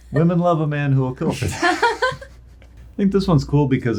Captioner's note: laughing